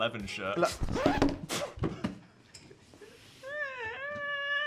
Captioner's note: record scratches; Dan laughing creakily